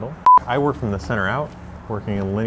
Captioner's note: beeping